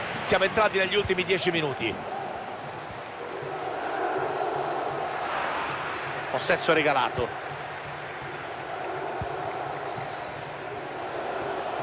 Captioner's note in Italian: Applauso